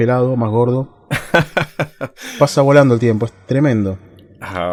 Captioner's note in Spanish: risas